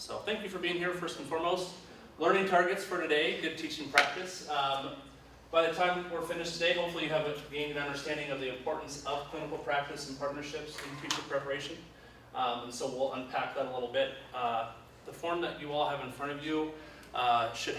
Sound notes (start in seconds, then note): none